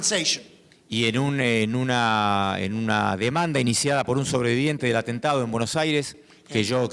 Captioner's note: speaking in foreign language